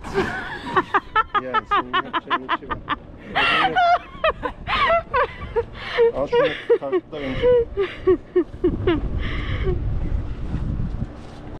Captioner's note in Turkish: Gülüşmeler